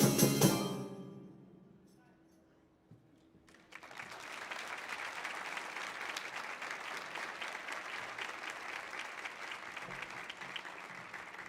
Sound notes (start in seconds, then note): 3.5 audience applauding